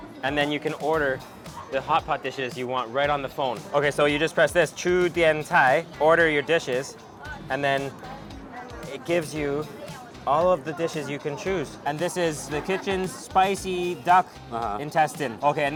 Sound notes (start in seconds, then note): 0.0 speaks in a foreign language; 4.9 speaks in a foreign language